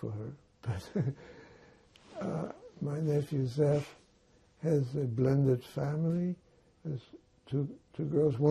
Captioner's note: laughing